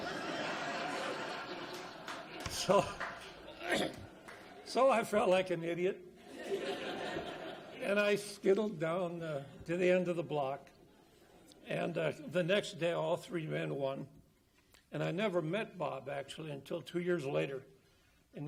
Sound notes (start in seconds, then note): 0.0 audience laughs and claps; 4.0 coughs; 6.2 audience laughs